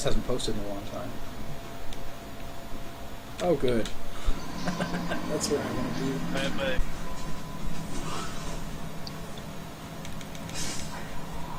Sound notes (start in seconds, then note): 4.5 chuckling